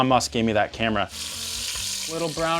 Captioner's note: chicken sizzling in pan